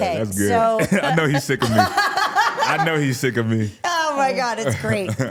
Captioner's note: laughs